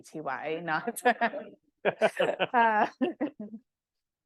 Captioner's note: all laughing